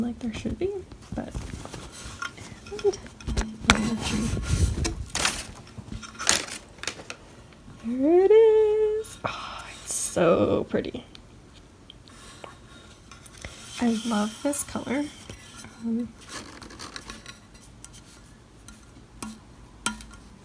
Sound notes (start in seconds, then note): 3.6 fabric rustling against metal, paper crinkling; 7.6 singsong